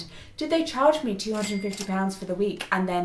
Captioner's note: register chiming